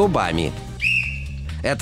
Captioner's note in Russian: свисток свистит